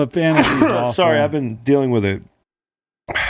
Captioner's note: sneeze